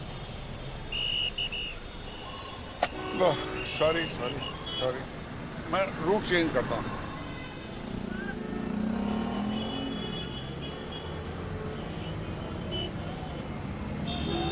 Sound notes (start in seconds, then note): 0.9 whistling